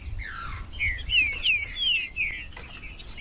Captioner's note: trinca ferro cantando